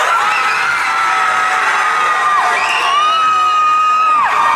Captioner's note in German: Leute schreien